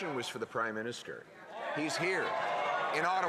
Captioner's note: some Applause